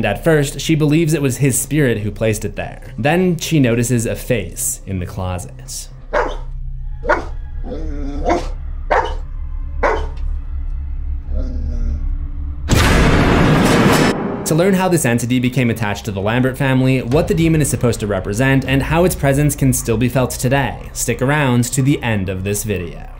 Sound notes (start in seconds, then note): 5.8 dog barking